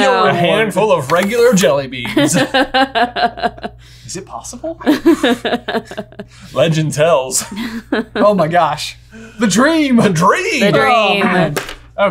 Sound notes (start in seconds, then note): 2.5 laughing amusingly